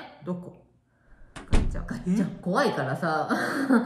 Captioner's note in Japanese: ドアの音